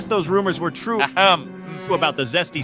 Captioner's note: clears his throat